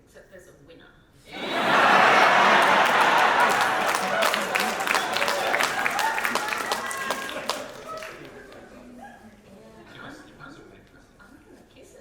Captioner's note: audience laugher and applause